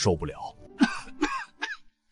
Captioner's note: cough